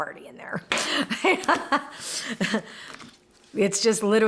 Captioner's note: laughs